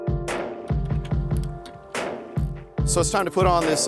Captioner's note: tools clicking